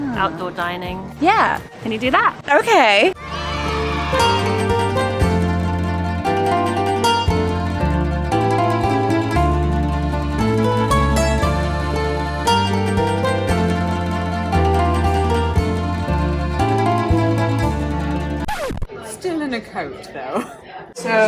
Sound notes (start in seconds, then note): 3.1 children cheering; 6.0 romantic music